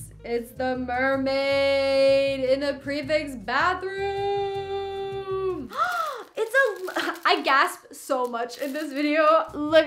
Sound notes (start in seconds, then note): 5.7 gasps